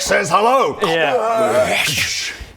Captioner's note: crrwaargh